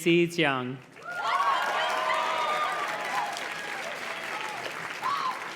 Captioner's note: audience cheers and claps